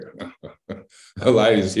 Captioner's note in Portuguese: Risos